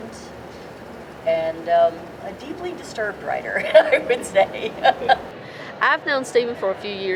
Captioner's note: laughs